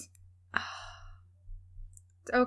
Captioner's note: sigh